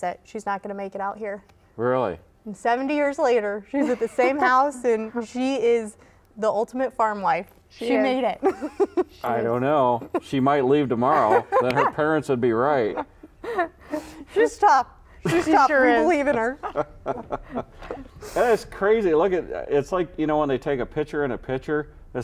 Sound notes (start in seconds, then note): 16.4 laughing